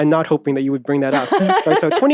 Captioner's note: laughs